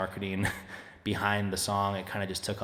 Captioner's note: chuckling